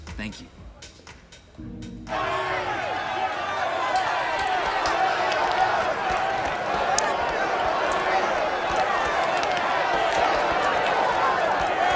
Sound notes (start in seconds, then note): 2.2 indistinct shouting